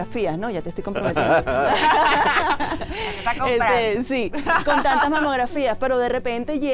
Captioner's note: laughter